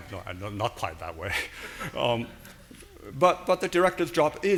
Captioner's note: chuckles